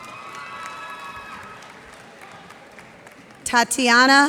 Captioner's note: cheers and applause